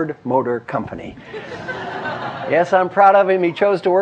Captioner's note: laugh